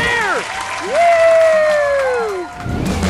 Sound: audience cheering

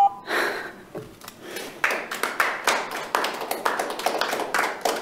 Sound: audience clapping

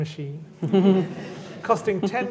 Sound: laughter

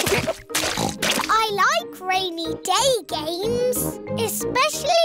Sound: oinks

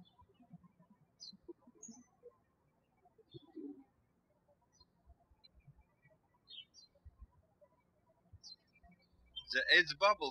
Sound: birds chirping

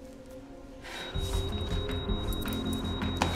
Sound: monitor beeping rapidly

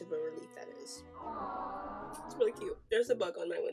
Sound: sound clip of crowd saying "aww"

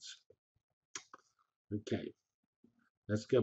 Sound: pause

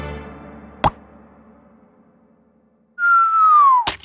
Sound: prawn pops; prawn whistling

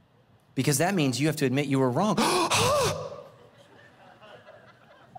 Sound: gasps

